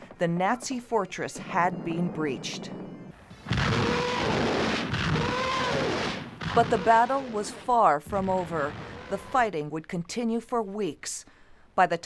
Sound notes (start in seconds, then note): 4.8 gunfire